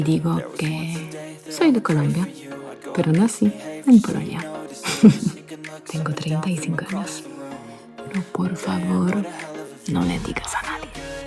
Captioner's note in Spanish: risas